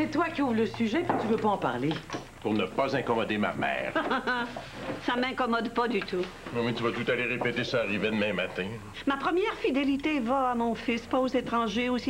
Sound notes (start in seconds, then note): 3.9 Rire